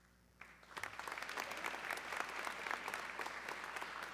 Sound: audience clapping

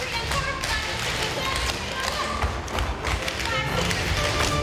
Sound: dancers tapping

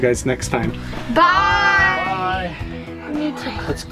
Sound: in Unison

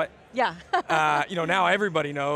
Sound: laughs

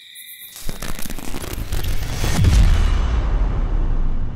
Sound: electricity sparking

